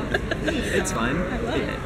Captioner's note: laughter